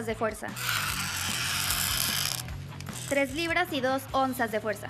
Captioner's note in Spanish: chirrido fuerte